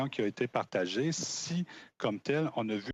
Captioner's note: speaking in French